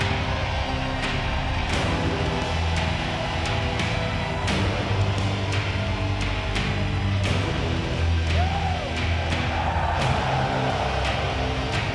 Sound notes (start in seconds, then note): 7.9 audience screams; 8.1 Sting screams